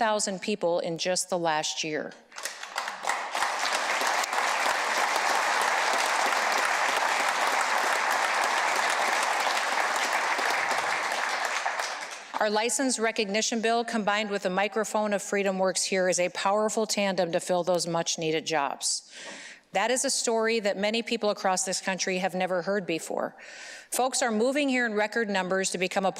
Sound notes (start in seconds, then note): 5.8 applause